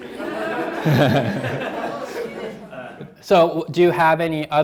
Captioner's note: laughing; students laughing